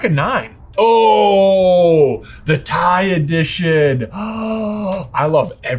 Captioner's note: exclaiming